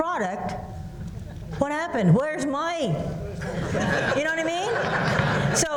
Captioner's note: laughter